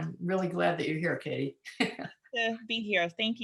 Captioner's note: laughs